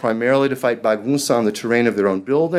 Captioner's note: speaking foreign language